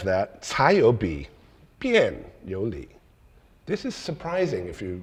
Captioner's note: speaking in foreign language